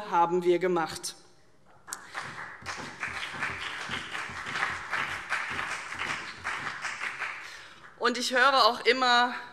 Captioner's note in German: Beifall CDU und BÜNDNIS 90/DIE GRÜNEN